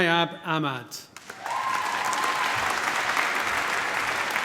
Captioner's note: applause